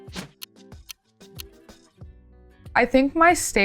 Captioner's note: upbeat music; clock ticking